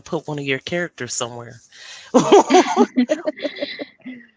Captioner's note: laughs